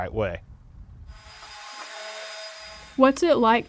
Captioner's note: machine whirring